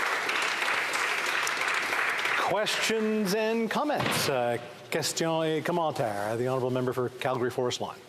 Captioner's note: applause